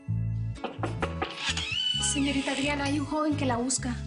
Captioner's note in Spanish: Toques en la puerta y ruido al abrir